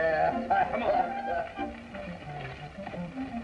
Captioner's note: laughter